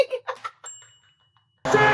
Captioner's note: laughs; ting! sound effect